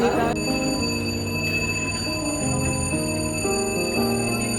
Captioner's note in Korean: 입장 시작을 알리는 종소리